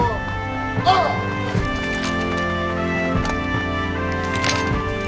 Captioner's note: firearms clack